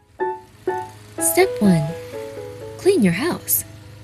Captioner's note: lawn mower whirring